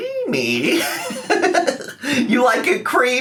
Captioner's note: laughing